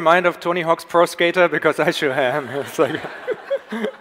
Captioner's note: audience laughs; Tobi laughs